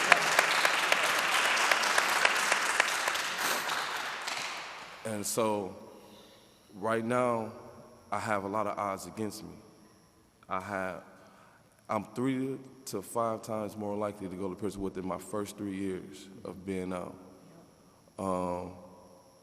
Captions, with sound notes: That's what it's. (audience applauding) And so right now, I have a lot of odds against me. I'm three to five times more likely to go to prison within my first three years of being out,